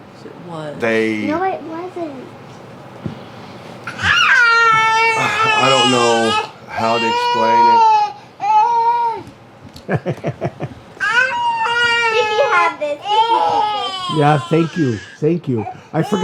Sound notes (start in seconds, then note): 6.7 toddlers babbling; 13.1 laughs